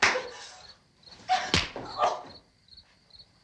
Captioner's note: groans